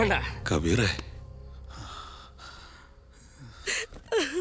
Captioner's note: distant crying